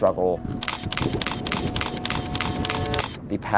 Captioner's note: thunder rumbling; camera clicking